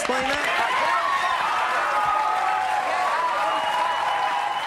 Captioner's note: audience cheering